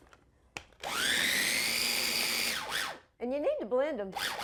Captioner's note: food processor whirring